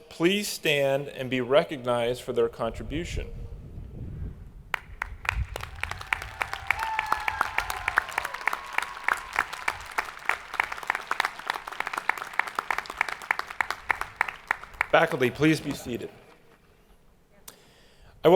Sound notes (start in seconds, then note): 5.3 hands clapping; 5.5 people cheering